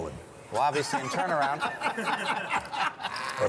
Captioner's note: laughter